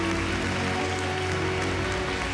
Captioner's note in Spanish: Aplausos